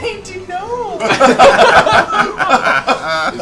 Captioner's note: laughter